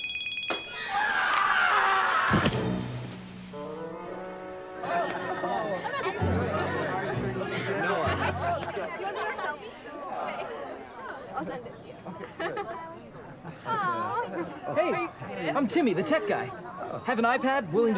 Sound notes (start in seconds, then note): 0.0 smartwatch ringing; 1.4 Corbin screams; 2.3 Corbin thuds; 4.8 kids chattering